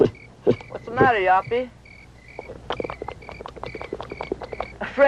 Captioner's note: baboon chattering